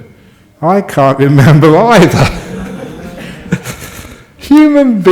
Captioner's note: more laughter